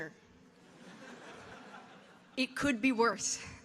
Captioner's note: audience laughing